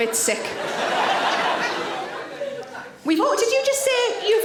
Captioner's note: audience laughing